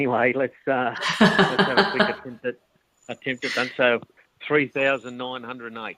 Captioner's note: laughing